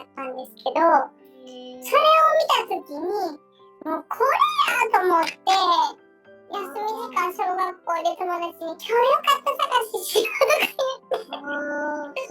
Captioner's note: laughs